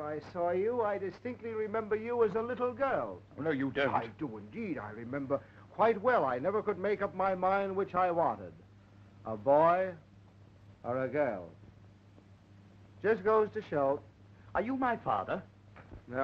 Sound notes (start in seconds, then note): none